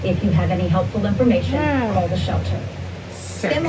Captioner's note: on TV